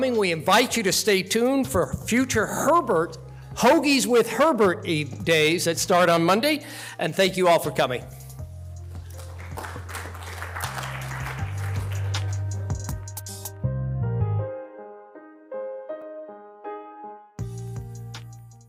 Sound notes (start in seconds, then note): 8.0 gentle music; 9.0 audience applauding